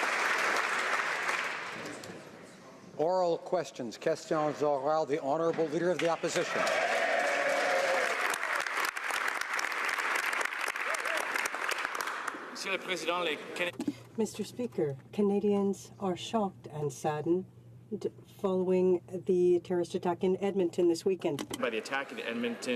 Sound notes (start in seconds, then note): 0.0 applause; 7.1 speaking French; 10.4 some Applause